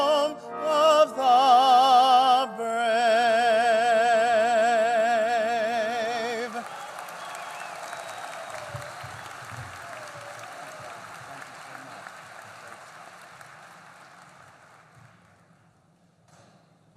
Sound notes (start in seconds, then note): 6.3 applause